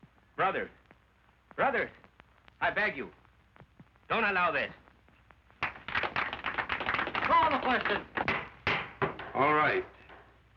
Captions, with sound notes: Brothers, brothers, I beg you-- don't allow this. [light applause] Call the question. [gavel strikes] All right.